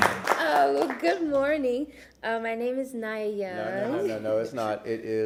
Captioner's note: applause